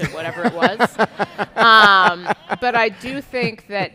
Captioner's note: audience laughing